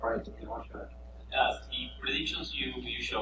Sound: man speaking off mic

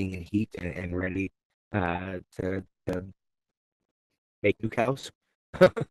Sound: laughing

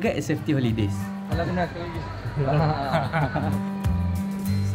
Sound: laugh

